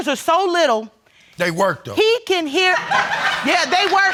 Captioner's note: audience laughing